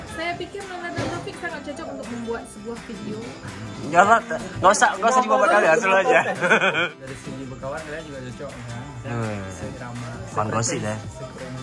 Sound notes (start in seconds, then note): 5.2 laughing